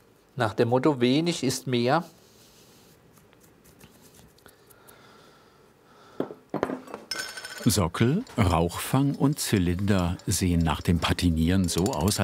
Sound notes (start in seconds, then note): 7.0 metallic clattering